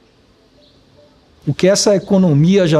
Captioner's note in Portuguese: Pássaros